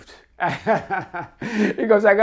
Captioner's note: laughs